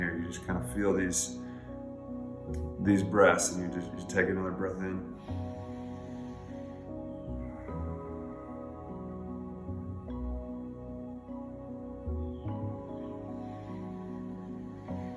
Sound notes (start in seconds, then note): 5.0 breathing deeply; 5.6 gentle music